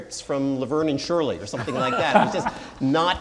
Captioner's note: laughing